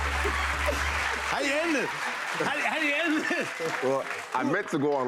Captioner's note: laughing